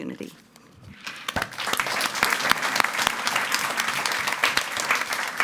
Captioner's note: audience applauding